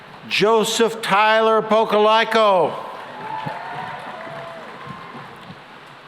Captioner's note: cheering and applause